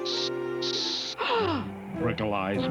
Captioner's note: gasps